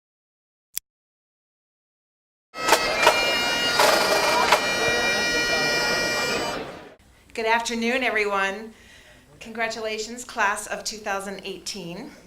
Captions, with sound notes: (click) (bagpipe music) Good afternoon, everyone. Congratulations, class of 2018.